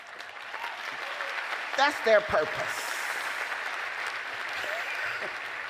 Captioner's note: applause